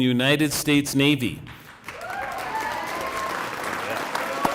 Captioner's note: cheering and applause